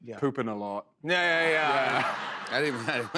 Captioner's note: laughter